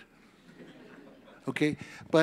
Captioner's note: audience laughs